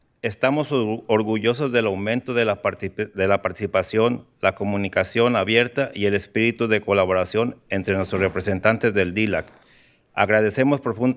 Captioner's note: speaking in spanish